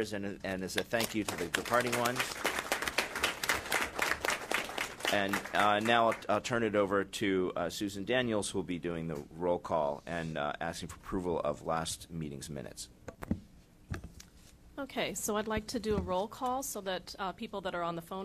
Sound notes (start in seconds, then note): 5.9 applause